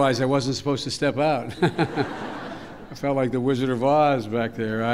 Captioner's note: laughter